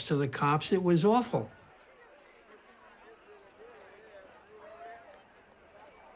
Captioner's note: people talking in background